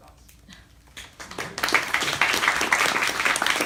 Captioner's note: applause